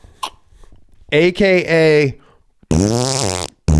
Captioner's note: makes fart noises